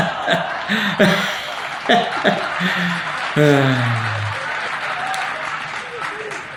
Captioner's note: laughs; audience laughing